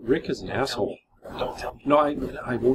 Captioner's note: whispers